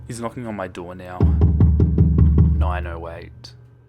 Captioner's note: knocking on door; continuous Knocking